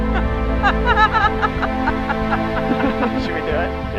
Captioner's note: laughing